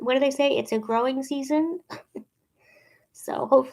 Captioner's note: chuckling